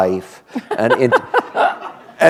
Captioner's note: laughter